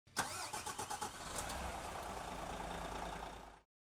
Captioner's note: car engine starts